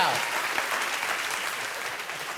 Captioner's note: applause